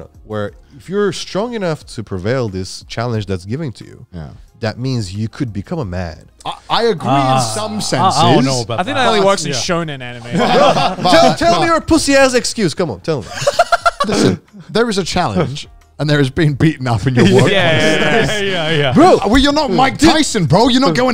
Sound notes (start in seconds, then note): 13.2 laughing